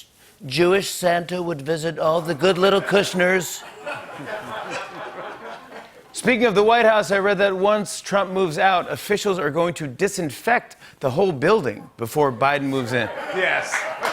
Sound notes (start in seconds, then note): 0.0 As Trump; 2.2 laughter; 5.7 normal voice